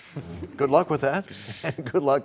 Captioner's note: laughter